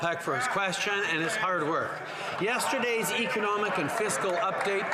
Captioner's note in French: voix de l'interprète